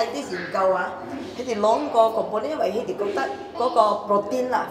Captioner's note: Cantonese